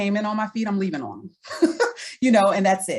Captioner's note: laughs